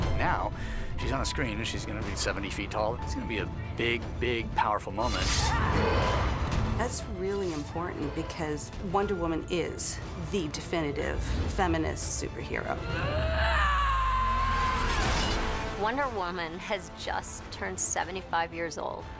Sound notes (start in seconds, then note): 5.3 yells; 12.8 yells